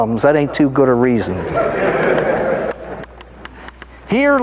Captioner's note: audience laughing